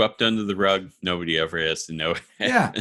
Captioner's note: laughs